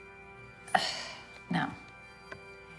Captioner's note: sighs